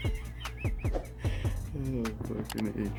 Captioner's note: laughing